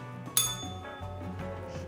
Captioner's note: bell rings